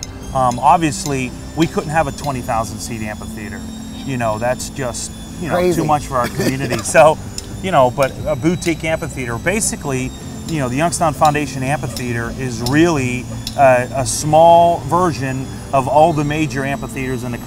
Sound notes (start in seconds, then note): 5.5 laughing